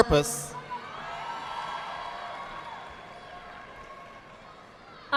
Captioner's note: audience applauding